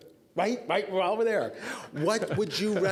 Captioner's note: laughing